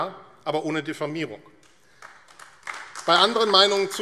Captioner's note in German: Beifall AfD